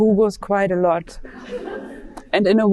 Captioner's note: audience laughing